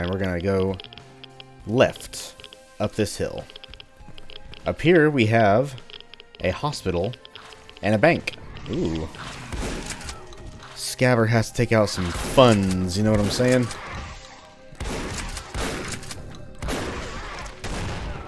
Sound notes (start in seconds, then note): 8.6 Bugdogs growling; 12.2 shotgun blasting